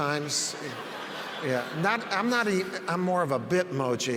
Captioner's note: audience laughs